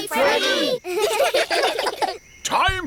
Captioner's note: children giggle